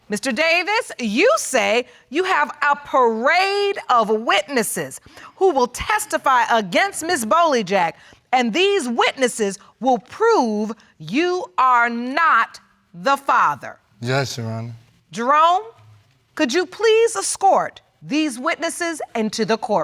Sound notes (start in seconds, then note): none